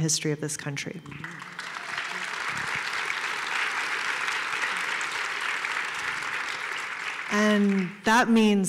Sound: applause

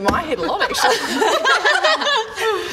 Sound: concerned laughs

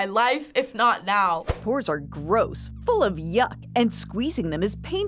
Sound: voice-over

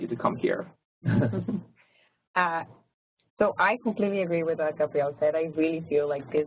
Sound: laugh

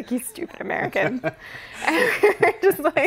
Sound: both laugh

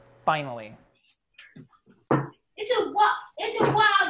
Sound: thumps on wood

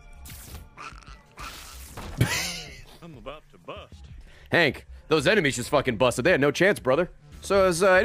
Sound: laughs

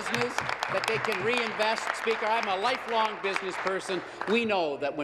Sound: applause

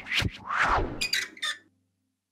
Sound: whoosh; squeaking

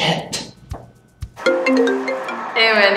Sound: phone ringing

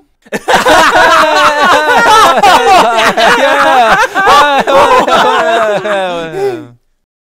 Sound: loud hysterical laughter

